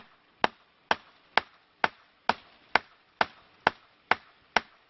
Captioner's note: tree knocking